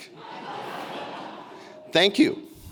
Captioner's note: audience laughing